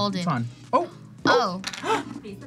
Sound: gasps

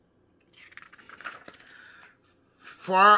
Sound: paper flipping

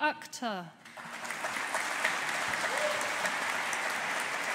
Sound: audience applauding

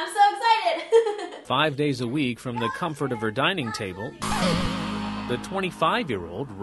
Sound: laughter

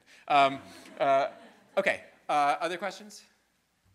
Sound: students laughing

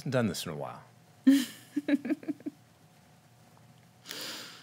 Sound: laughing

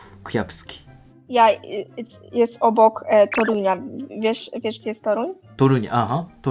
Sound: Polish

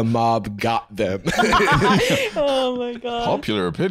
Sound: laughing

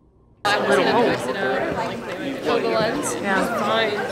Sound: people talking

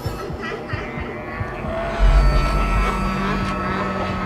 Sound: laughing

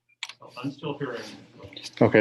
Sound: an echo

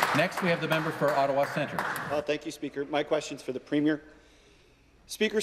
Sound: applause

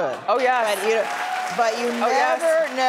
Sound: audience clapping

